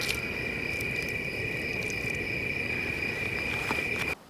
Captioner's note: splishy splashy